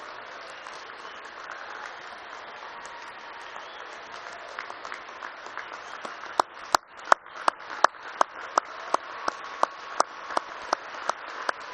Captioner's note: applause